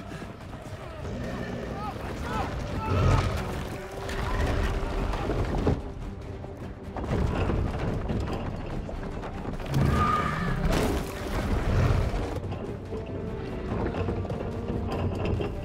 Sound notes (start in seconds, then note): 2.7 screaming; 9.7 shrieks